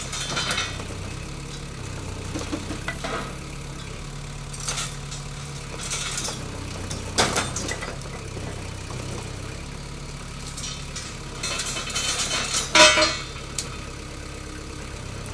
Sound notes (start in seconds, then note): 0.0 chains clanking; 2.3 machine revving; 4.4 chains clanking; 7.4 wood banging; 11.8 metal clanging